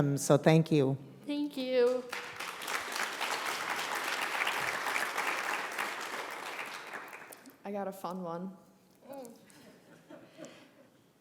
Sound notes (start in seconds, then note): 1.8 applause; 9.5 laughter